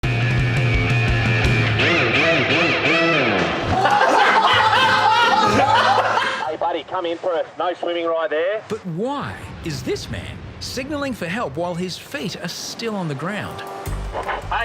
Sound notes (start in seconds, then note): 0.0 upbeat rock music; 3.6 lifeguards laughing